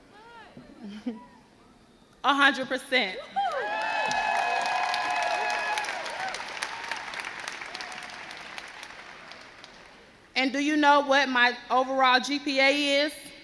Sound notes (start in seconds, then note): 3.2 crowd cheers